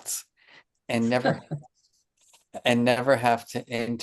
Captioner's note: chuckling